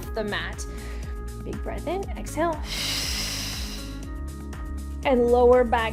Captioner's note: exhales sharply